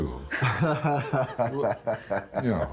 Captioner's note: laughing